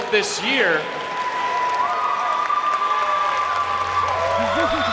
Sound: crowd cheering and applauding

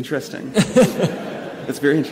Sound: laughing

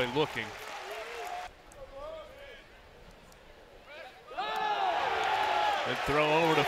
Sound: cheering

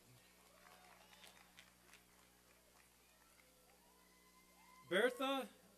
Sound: applause and cheering

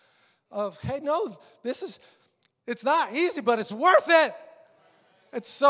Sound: congregation agreeing

